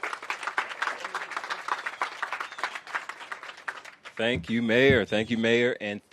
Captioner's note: applause